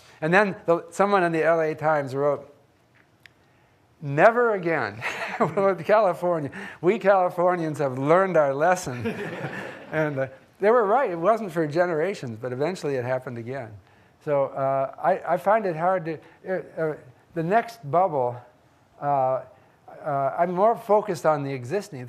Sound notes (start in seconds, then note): 6.2 laughs; 9.0 audience laughing